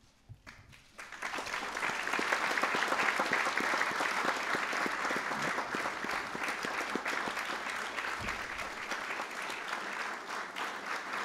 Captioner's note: applause